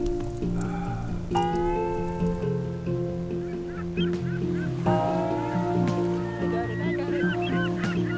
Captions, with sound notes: [SEAGULLS CAWING] - I got it, I got it!